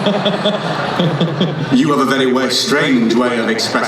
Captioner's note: laughing